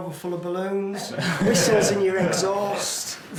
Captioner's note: group laughs